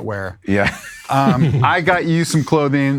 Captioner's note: laughs